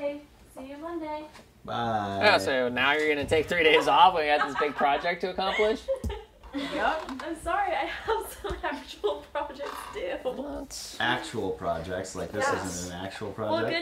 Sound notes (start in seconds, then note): 5.4 laughing